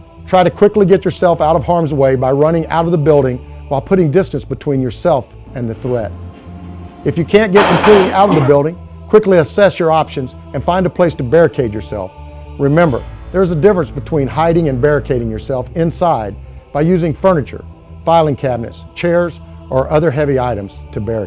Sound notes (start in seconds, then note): 7.6 gunshots